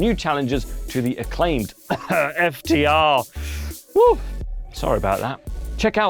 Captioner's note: cough FTR